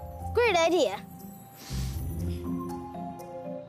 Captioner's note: sniffs